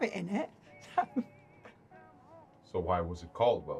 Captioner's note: laughs